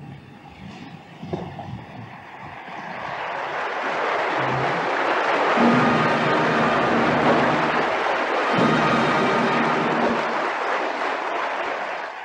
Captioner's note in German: Applaus